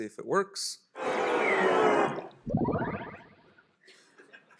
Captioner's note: whoosh